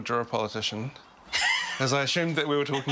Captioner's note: laughing